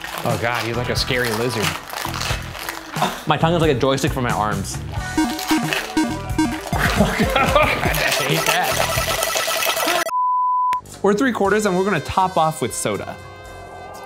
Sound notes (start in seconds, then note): 4.0 playful music; 8.8 beep